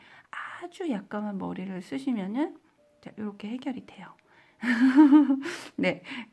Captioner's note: giggles